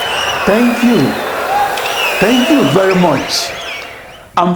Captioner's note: wild applause and cheering for 22 seconds